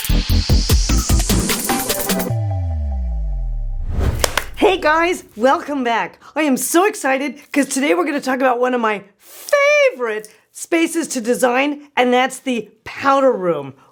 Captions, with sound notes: - (claps) Hey guys. Welcome back. I am so excited cause today we're gonna talk about one of my favorite spaces to design and that's the powder room.